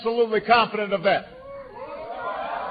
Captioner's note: applause